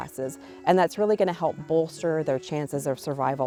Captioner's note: none